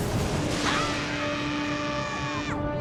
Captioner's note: children screaming